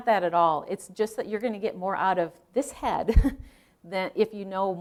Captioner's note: chuckling